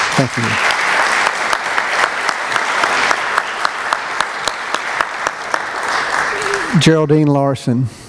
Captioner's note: applause